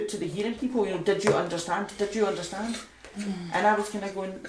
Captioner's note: insistingly